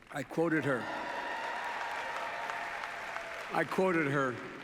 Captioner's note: applause